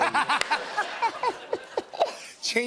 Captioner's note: laughter